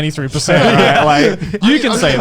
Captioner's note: laughing